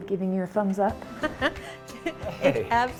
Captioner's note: laughing